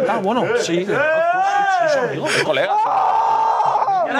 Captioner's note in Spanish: gritan mucho